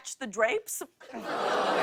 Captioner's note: audience groans